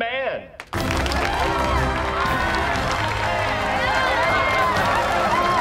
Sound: cheering, applause

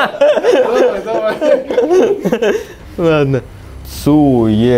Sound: laughing

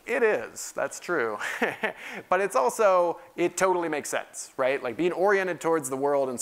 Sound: laugh

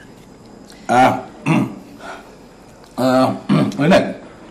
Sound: clears throat

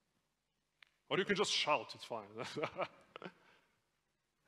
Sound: laughs

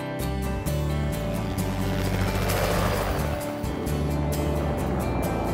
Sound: helicopter flying past

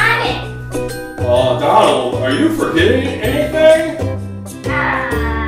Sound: voiceover

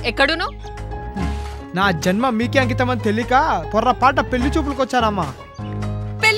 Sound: sarcastically

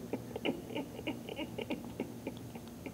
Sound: laughing

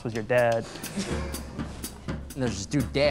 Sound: scattered laughs

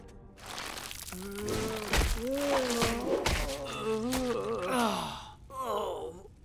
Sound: groaning

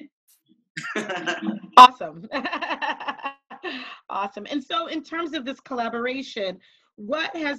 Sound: laughing

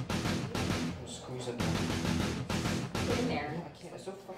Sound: chatter

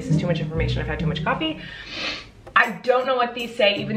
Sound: sniffs

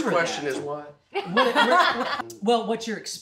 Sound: laughs

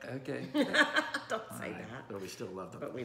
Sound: laughing

